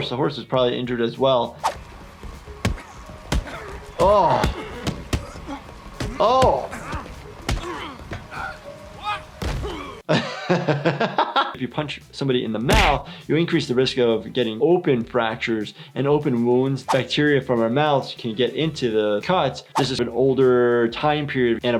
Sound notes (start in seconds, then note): 2.2 fists thudding; 5.2 men grunting; 9.9 laughing